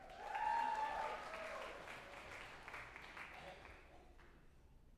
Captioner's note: group applauding and cheering